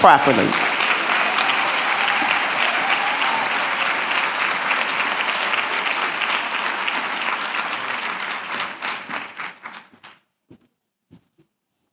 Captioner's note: applause